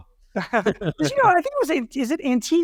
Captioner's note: both laugh